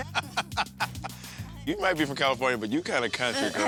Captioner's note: laughing